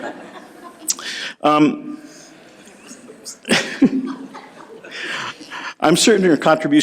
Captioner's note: soft laughter